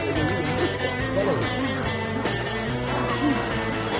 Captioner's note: actors grunting